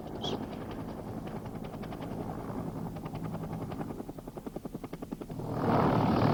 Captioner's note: helicopter blades whirring